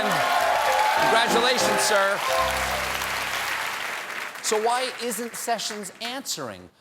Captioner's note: cheers and applause